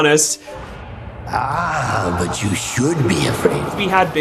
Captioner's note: ominous Voice